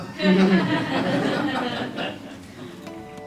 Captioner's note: laugh